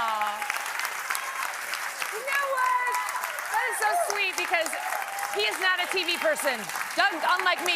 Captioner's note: applause